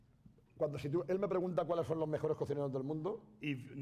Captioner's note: speaking spanish